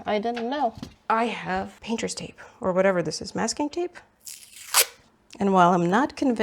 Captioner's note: papery tape tears